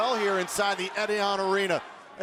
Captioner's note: fans chanting